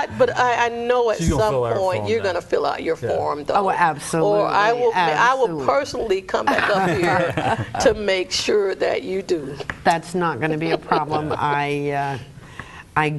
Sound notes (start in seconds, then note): 6.5 both laugh